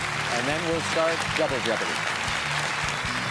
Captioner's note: applause